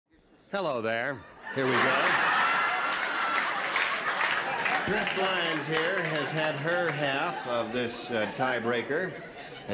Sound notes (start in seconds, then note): 1.4 laughter